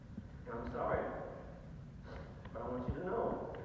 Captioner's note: sniffle